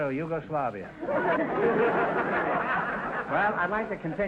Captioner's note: audience laughter